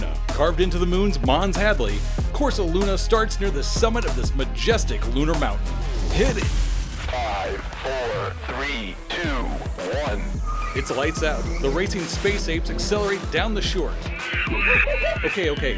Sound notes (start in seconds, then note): 14.0 angry ape noises